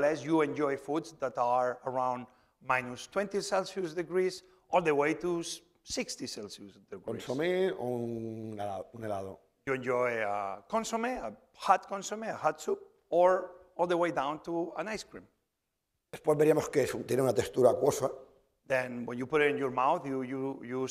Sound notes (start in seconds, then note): 8.2 speaking spanish; 11.7 spanish; 16.5 speaking spanish